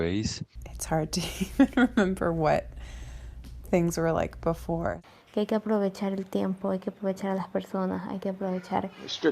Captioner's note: foreign language